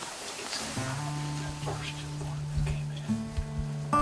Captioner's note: whispering